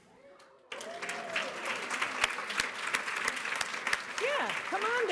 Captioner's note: cheering and applause